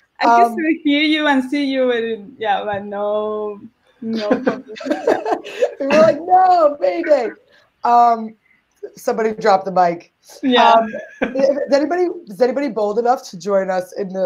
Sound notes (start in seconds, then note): 4.1 laughs